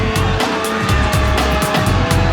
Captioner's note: crowd gasping